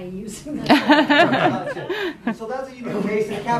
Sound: laughter

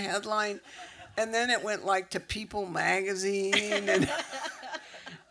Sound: laughter

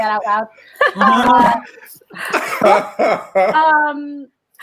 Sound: all laughing

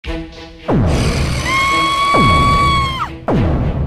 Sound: Peach screams

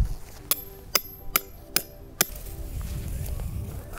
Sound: hammering pegs

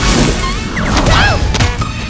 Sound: screaming

